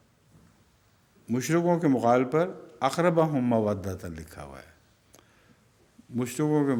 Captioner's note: Arabic